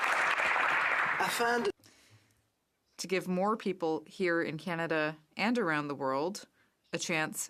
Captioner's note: applause